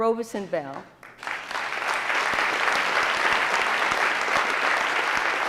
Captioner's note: audience applauding